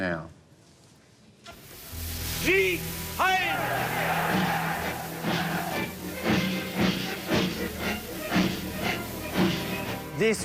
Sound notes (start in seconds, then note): 3.2 crowd noise; 5.1 marching band music